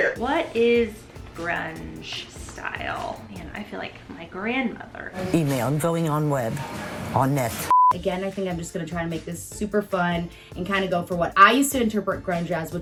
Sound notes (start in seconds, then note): 7.6 beep